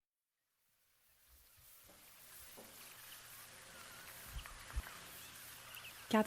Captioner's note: birdsong fades in